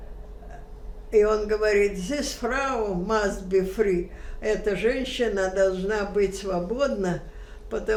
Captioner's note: german